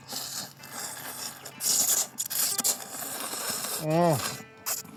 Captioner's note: both slurp